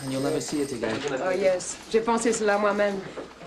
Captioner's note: speaking french